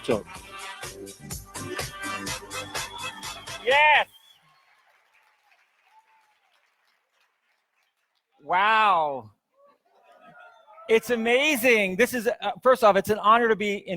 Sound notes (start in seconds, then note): 0.0 upbeat funky music; 5.0 audience applauds